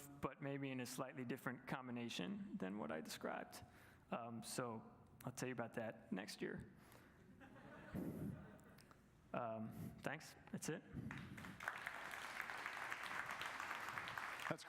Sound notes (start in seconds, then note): 7.4 light audience laughter; 11.1 audience applause